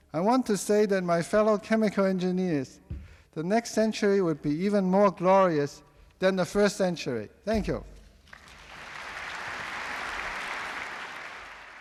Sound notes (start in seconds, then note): 8.2 applause